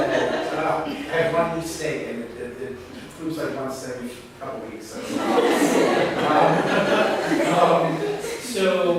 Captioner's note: laughter; laughter